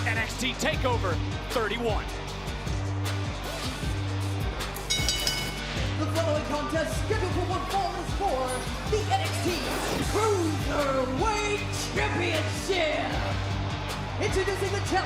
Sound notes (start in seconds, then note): 4.8 bell ringing